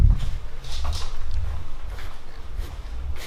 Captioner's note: footsteps